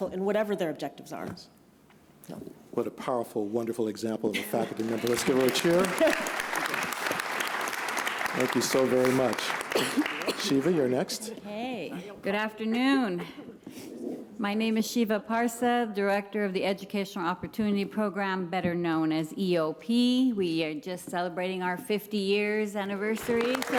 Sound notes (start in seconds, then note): 4.6 applause